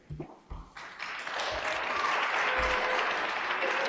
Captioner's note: audience applauding